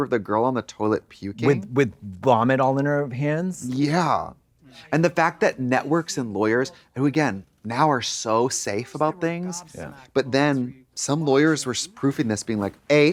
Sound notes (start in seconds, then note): none